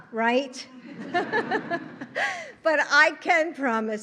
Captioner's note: laughter